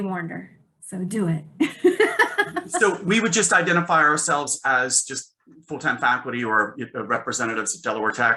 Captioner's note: laughing